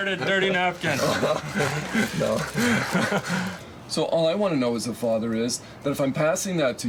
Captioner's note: laughs